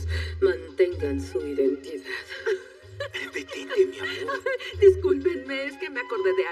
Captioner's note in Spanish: Ríe